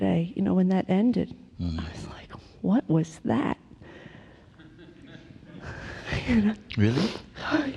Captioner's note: laughter